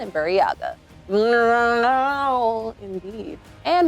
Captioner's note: imitates Shyriiwook